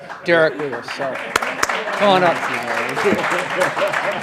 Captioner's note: audience applauding; laughing